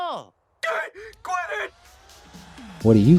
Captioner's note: man screaming; upbeat music